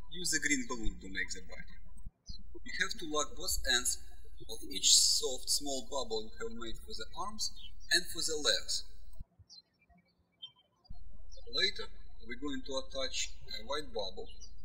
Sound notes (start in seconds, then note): 9.4 birds chirping